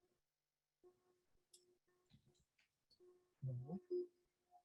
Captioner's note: silence